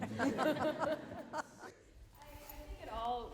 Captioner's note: laughter